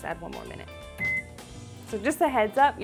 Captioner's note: microwave beeping